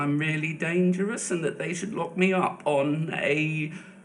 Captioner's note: none